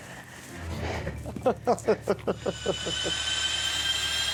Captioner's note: laughter